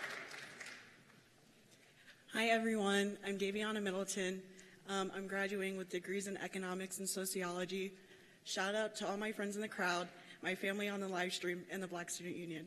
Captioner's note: cheers and applause